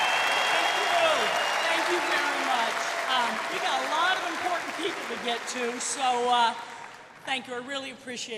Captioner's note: cheers and applause